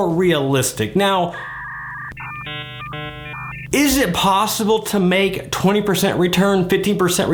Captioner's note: dial-up tone